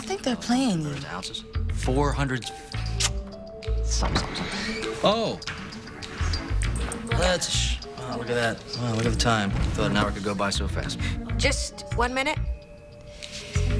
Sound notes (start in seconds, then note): 3.2 mouth clicks; 3.9 door opens